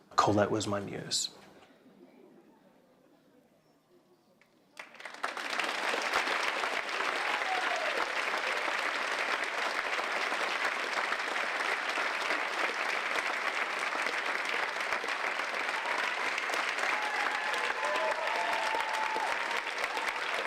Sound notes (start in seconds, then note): 1.8 applause